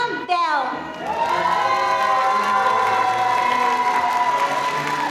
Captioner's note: audience applauding